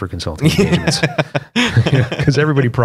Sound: laughter

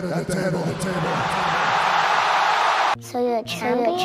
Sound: flashback Crowd cheers

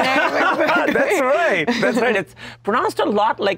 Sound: laughs

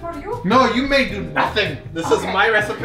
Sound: teasing

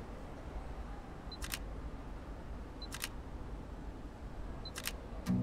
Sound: shutter clicking

